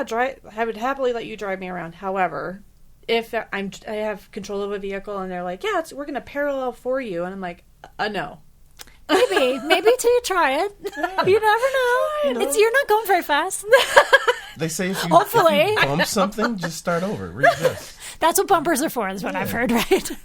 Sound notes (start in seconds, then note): 13.6 laughing